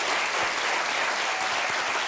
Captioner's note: applause